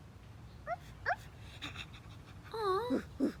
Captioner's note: puppy sounds